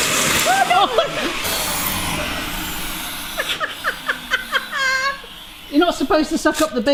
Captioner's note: laughing